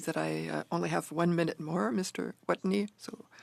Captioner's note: speaking French